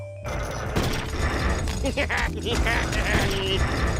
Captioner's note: laughs